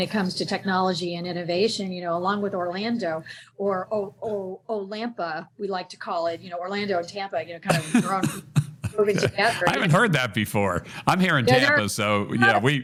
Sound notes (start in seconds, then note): 7.7 laughs